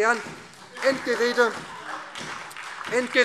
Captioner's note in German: Heiterkeit und Beifall SPD